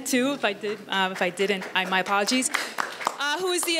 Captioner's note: audience applauds